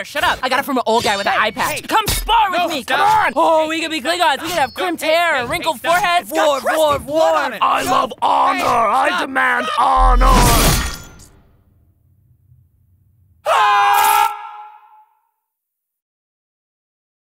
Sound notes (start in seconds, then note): 10.4 metal clinking; 13.4 screaming